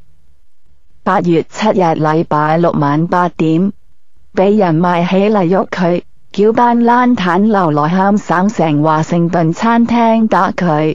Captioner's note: Cantonese